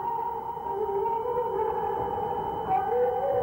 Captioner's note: humming